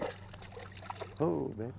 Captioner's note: splash